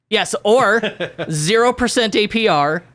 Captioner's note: laughs